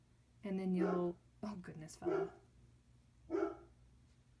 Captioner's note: dog barking; dog barks